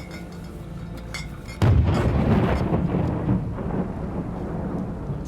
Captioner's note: explosion